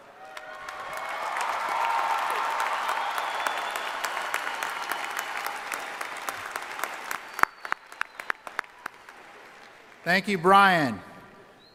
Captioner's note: cheering and applause